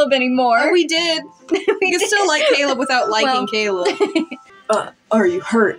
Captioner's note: giggle; laughing